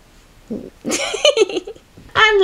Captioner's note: giggles